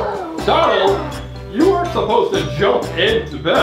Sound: voiceover

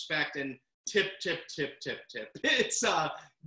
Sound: laughs

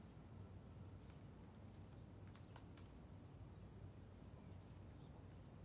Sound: muffled keyboard clacks

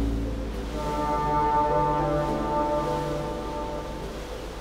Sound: horn blares; light jazz music

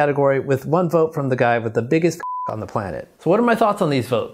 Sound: beep

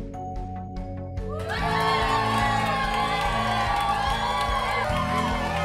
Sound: all cheering

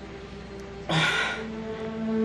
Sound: exhales

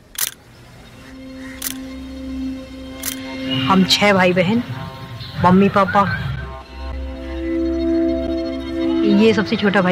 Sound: non-english speech

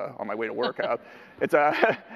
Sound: laughter

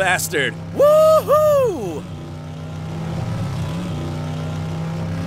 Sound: James Dean cheers

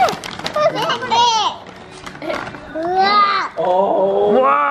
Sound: shouts

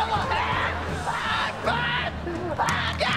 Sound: screaming

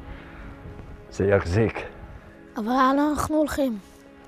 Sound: speaking in Hebrew

